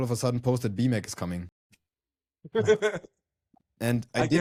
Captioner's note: laughs